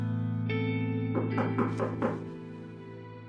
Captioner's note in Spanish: Ruido al tocar la puerta